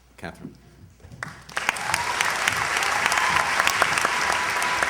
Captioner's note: cheers, applause